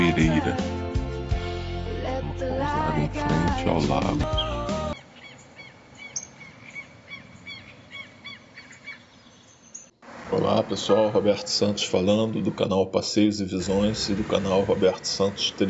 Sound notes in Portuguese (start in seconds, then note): 6.4 sons de pássaros